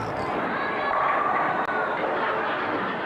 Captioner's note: bowling pins falling